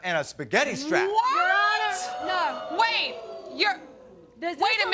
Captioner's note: audience howling